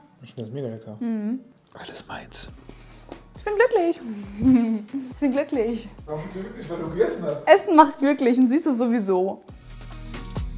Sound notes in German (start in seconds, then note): 4.3 lacht